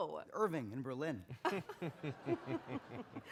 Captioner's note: chuckling